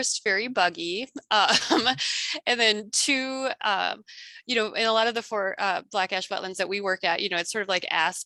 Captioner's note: laughs